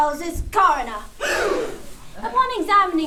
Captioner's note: gasp